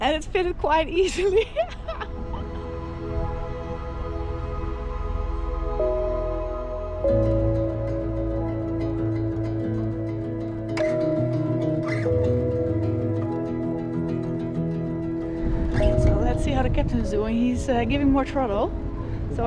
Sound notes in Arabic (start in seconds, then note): 1.1 يضحك